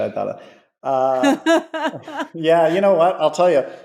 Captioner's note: laughing